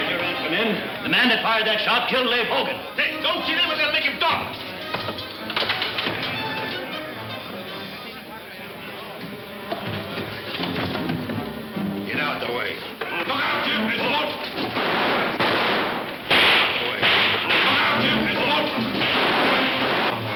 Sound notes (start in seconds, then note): 4.2 men chattering; 4.2 suspenseful music; 13.1 men shouting; 14.5 guns firing; 17.4 men shouting; 18.2 guns firing